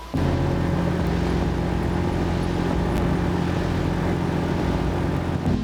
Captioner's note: engine roaring